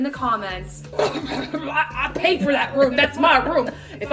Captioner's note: blubbers